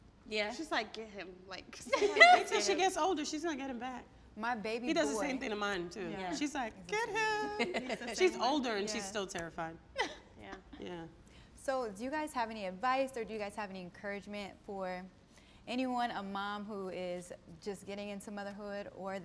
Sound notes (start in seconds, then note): 1.9 laughing; 7.4 laughs